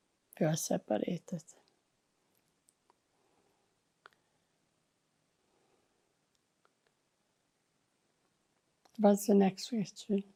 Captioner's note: pauses 8 seconds